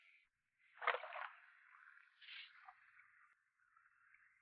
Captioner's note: water splashes